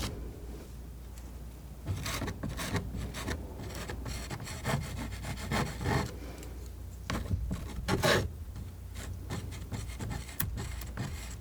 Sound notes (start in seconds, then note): 0.8 scratching